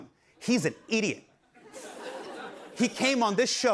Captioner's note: laughter